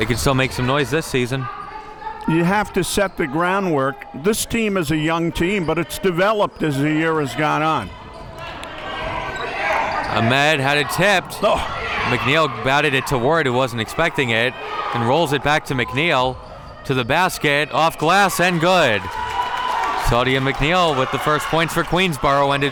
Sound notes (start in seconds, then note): 17.4 audience cheering